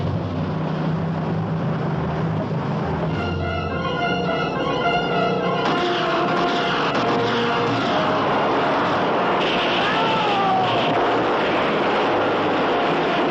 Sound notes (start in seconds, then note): 2.6 gunfire; 7.0 shouting